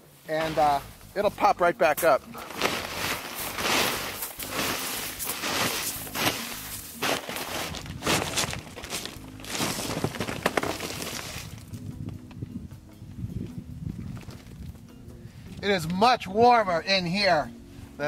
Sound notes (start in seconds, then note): 2.4 scraping snow off plastic; 8.4 plastic crinkling